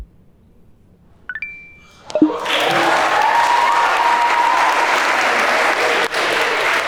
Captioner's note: electronics ring; group applauds